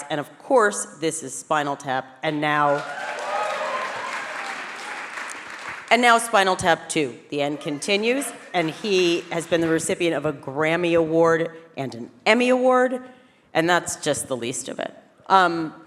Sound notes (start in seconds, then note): 2.7 audience cheering